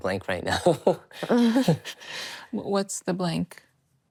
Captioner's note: laughs